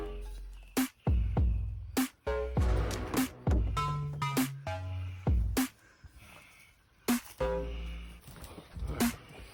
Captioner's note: heavy breathing